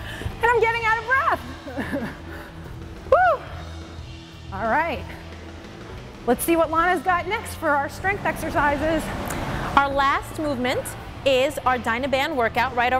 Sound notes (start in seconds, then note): 2.0 chuckles breathingly